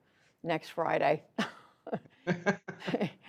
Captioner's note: laughter